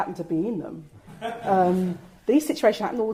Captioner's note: audience laughs